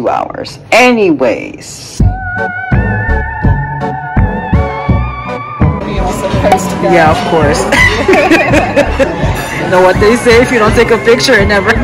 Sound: chuckling

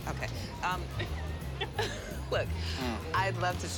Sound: laughter

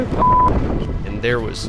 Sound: beep

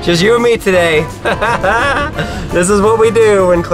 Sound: mischievous laughing

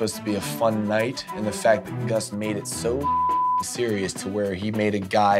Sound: beep

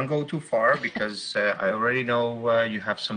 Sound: laughs

